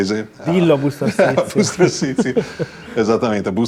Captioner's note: laughs